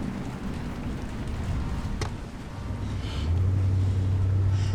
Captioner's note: rain splattering